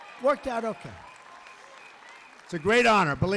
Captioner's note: applause